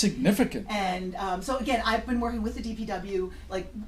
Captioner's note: voiceover